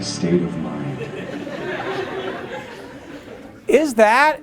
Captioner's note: laughter